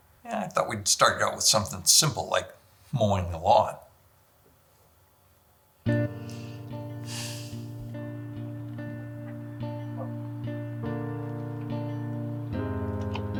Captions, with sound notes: - Yeah, I thought we'd start out with something simple like mowing the lawn. (Joy sighs) (light music)